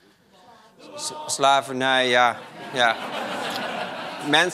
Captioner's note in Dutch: gelach